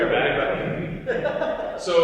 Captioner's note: laughter